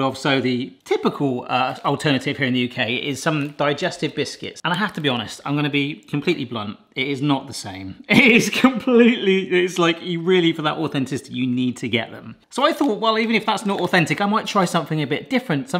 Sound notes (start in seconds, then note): 8.1 laughs